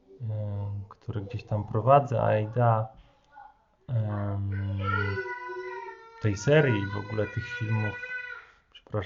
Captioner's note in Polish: słychać głosy dzieci